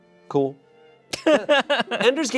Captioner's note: laughs